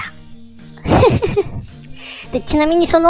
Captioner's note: laugh